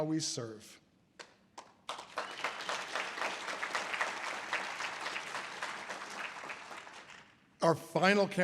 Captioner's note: audience applause